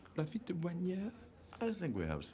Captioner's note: guy speaking in foreign language